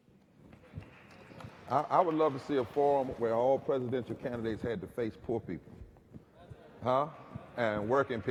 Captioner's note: applause